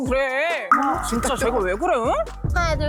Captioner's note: hurt sound effect; no hesitation sound effect